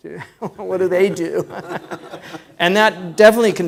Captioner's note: laughs